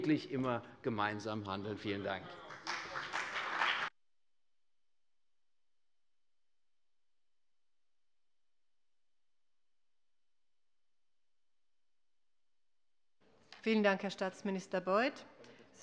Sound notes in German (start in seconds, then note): 2.1 Beifall bei der CDU und bei Abgeordneten des BÜNDNISSES 90/DIE GRÜNEN